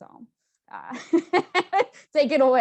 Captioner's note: laughs loudly